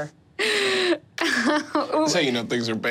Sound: laughing

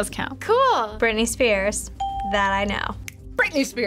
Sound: bell rings

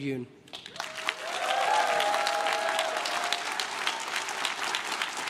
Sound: crowd cheers and claps

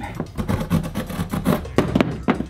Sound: rips; bangs

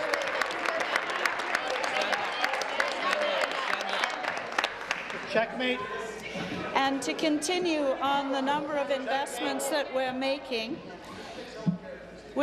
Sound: some applause

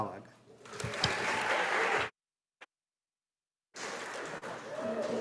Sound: audience applauding

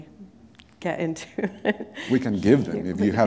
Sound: laughter

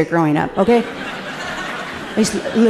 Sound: audience laughing gently

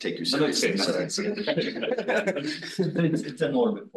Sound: laughing

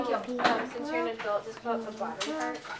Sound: background chatter

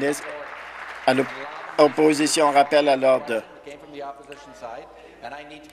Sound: applause

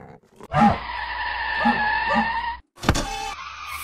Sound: robot Dog Barking

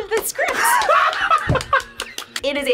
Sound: claps; laughs

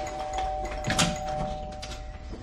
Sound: doorbell ringing; door opening

